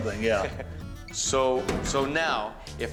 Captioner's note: laughter